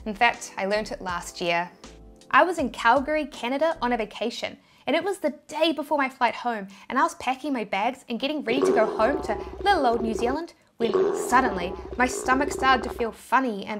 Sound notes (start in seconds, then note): 10.8 stomach rumbles